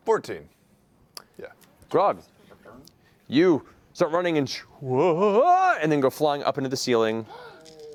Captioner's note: yelps